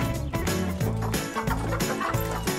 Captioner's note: chicken cluck